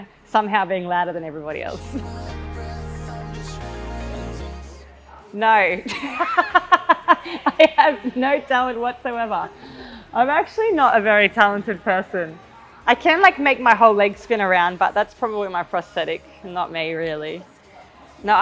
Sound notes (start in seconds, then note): 1.4 energetic music; 5.7 laughing